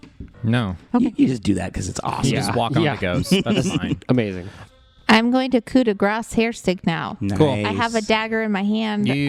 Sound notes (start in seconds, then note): 4.1 laughs